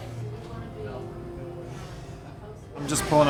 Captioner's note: none